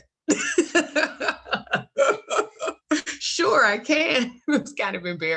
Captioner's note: laughs